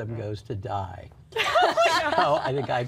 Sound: laughter

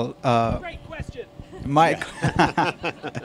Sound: off mic; laughter

